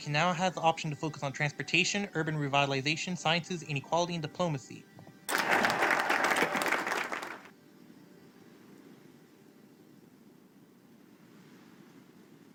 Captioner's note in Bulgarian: аплодисменти